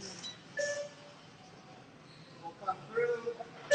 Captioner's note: sensor beeping